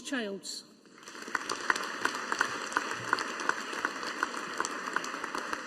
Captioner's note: audience applauding